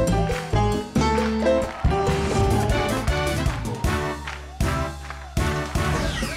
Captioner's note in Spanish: Aplausos